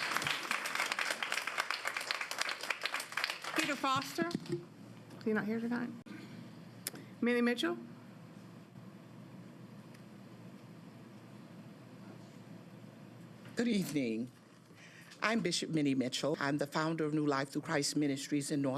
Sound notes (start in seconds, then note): 3.6 applause